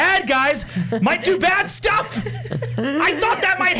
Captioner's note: laughing